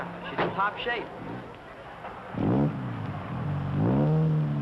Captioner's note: engine revving